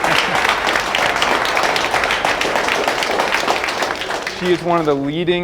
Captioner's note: prisoners applauding